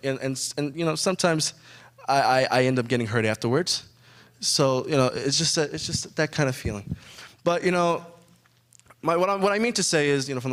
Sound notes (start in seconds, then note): none